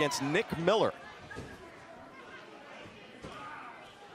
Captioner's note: crowd chatter